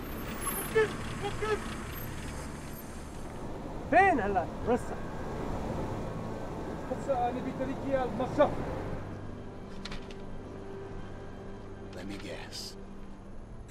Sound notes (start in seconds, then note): 0.2 yelling; 3.9 speaking foreign language